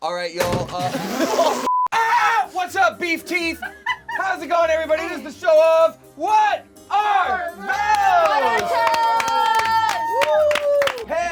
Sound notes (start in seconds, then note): 1.1 laughing; 1.9 screaming; 7.7 cheering; 7.8 clapping